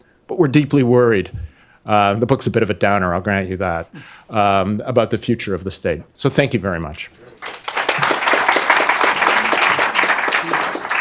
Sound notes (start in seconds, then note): 7.3 applause